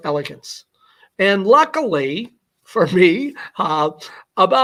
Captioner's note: laughter